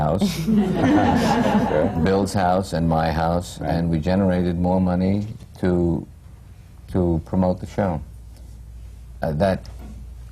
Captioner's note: laughter